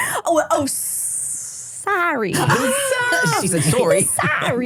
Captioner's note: said in a Boston accent